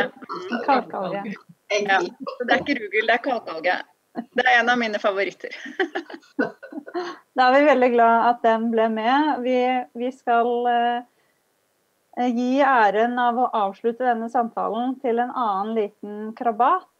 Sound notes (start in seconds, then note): 5.6 laughter